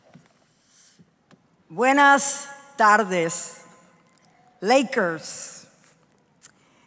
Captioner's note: speaking in foreign language